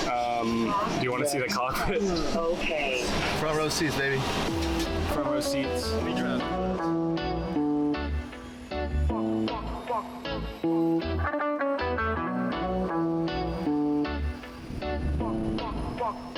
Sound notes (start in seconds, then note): 3.1 digital Voice; 6.8 reggae music